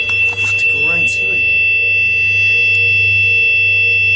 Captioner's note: machine beeps